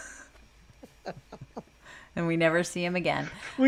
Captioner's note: laughs